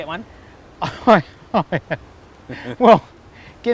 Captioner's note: laughs